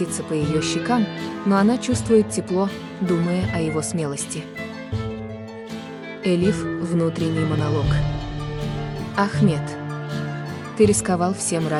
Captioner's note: inner monologue